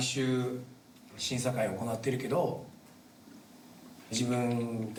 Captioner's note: singing in foreign language; speaking in foreign language